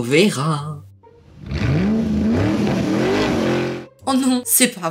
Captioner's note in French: Bruit de voiture